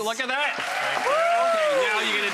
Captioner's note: audience applause